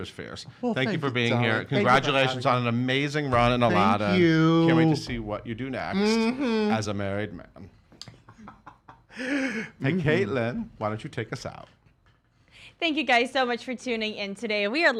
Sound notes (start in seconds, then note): 8.1 laughs